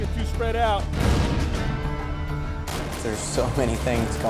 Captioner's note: explosion